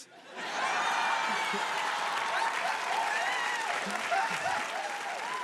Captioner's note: audience cheering and applauding